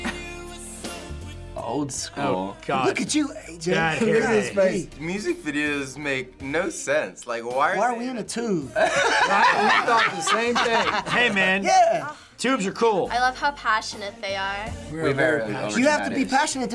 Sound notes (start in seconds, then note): 8.7 laughs